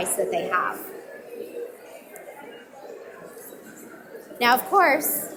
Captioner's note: audience mumbling